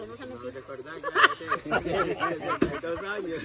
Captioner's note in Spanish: risas